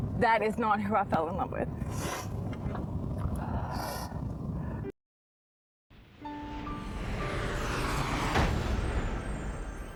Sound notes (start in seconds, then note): 1.9 sniffles; 6.0 gentle music